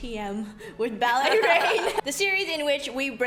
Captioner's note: laughs